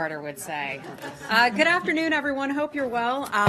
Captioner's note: laughter